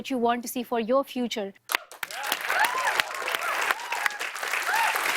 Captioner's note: cheers and applause